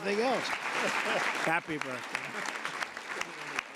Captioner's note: laughter and applause